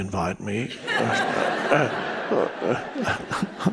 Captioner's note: all laugh